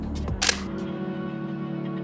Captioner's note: shutter clicks